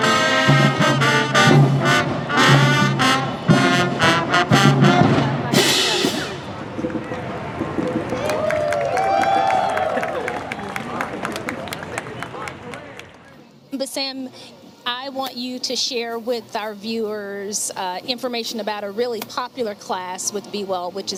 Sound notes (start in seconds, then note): 6.5 song ends; 6.6 crowd cheering and applauding